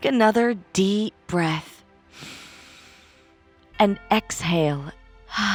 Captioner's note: inhales; exhales